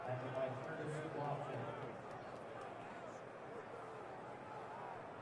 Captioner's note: pa announcement